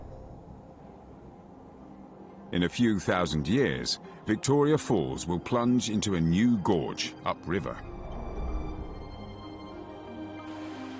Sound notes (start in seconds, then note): 4.3 peaceful music; 4.3 water rushing